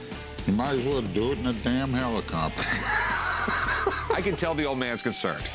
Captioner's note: laughs